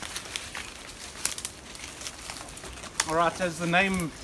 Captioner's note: breaking twigs